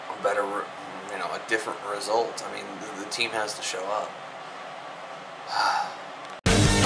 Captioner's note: sigh